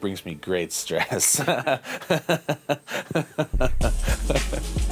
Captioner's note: laughter